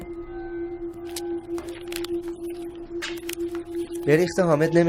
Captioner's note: suspenseful music; rustling paper